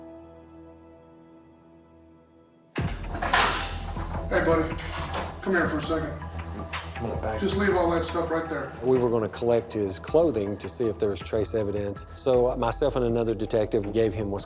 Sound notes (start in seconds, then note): 4.7 door opens